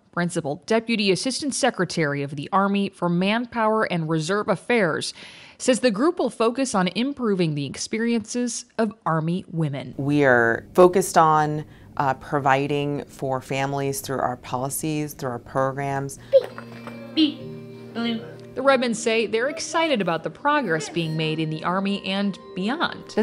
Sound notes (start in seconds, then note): 16.3 mumbling